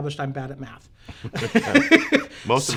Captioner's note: laughing